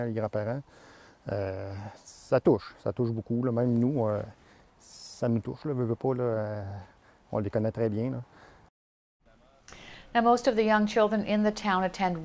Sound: speaking french

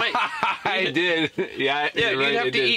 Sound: laughing

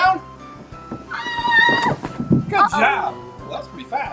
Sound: assistant screaming

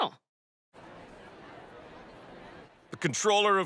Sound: indistinct chatter

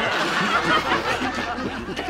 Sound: laughing

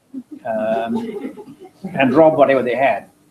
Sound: laugh

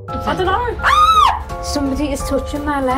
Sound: screams

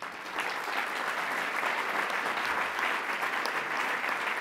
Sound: audience applauds

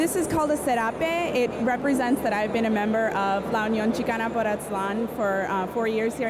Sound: non-english speech

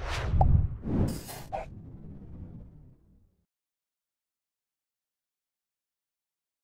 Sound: swoosh; pop

